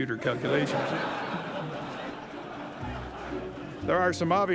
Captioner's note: audience laughing